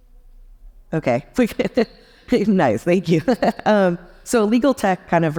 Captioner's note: chuckles